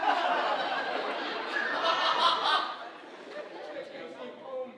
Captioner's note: audience laughing